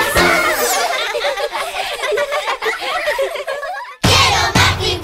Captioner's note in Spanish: Risas